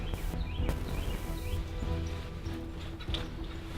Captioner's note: wildlife tittering